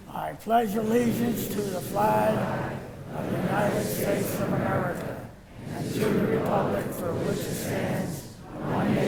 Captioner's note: all reciting